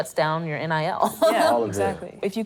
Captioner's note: laughter